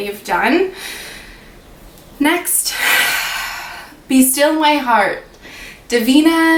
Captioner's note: sighs